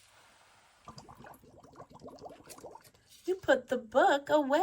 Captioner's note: water bubbles